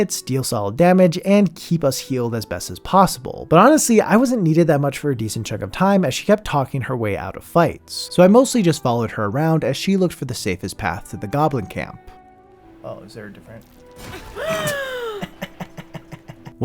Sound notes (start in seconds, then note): 14.3 laughing; 14.4 gasp